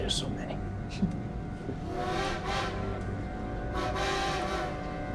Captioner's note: train whistles